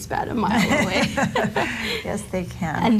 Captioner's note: both Laughing